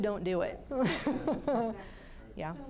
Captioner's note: laughing